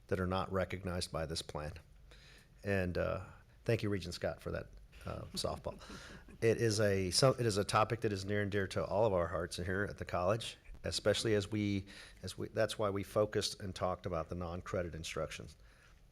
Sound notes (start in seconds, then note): none